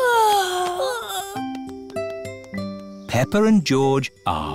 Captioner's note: peppa and george yawning